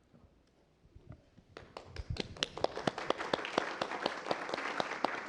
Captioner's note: applause